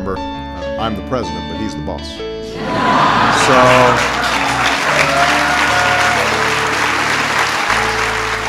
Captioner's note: laughter, applause, and cheers